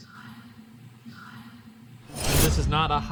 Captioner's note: disembodied Voice